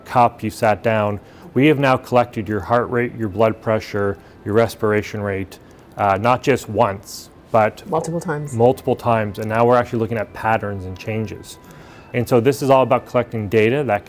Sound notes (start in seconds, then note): none